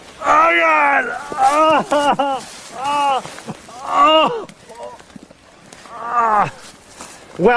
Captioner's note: groaning in pain